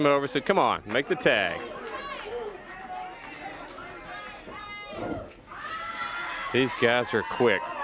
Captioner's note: crowd cheering